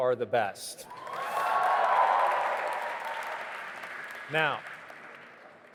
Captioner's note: audience applauding and cheering